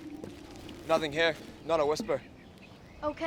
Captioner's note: none